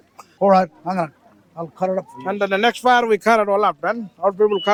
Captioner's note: laughing